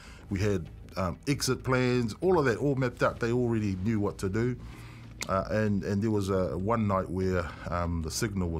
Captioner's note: none